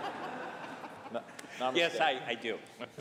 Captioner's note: laughter